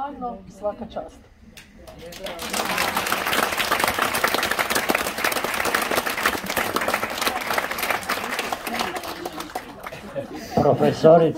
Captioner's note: applause…